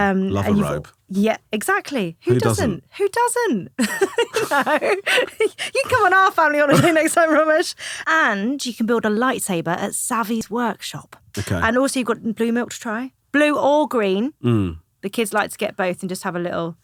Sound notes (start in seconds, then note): 3.8 laughing